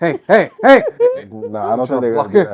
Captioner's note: laughter